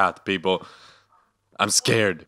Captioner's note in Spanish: la respiración nerviosa de alguien que le importa un poco demasiado